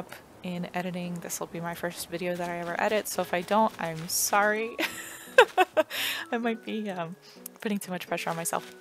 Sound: laugh

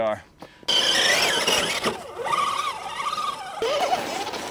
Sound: engine whining

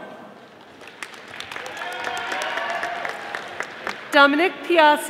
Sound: audience applauding

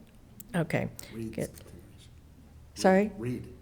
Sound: faintly speaking

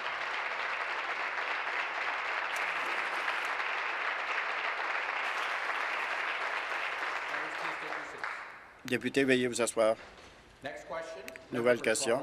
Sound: applause

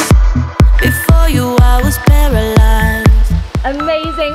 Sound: beeping

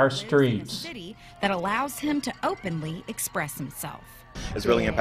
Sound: voice-over

